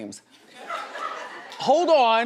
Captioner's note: laughs